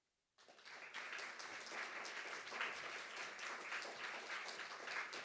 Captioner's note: audience applauding